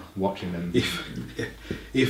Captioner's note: laughs